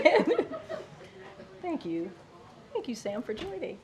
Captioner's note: laughter